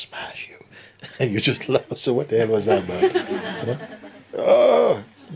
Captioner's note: laughter